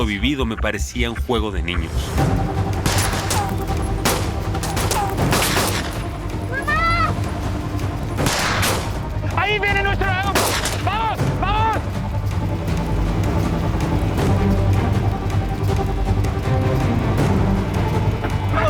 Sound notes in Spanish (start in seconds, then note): 2.8 Disparos; 8.2 Disparos